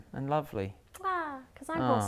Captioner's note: mwah!